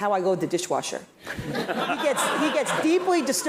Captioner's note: laugh